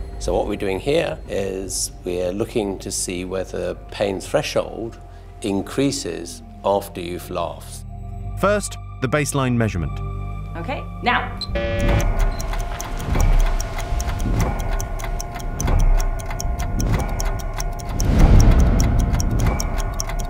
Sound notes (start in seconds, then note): 11.4 buzzer; 13.1 ticking